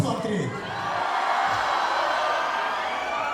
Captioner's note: crowd, cheering